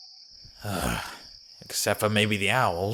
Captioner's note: sigh